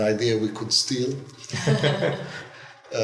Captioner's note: laughter